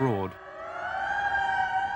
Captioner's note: sirens